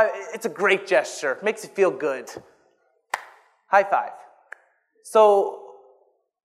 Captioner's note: claps